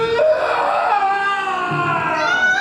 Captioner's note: screams